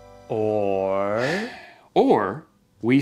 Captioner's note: sighs